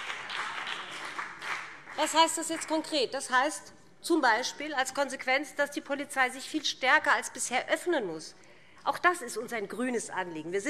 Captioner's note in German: Beifall CDU und BÜNDNIS 90/DIE GRÜNEN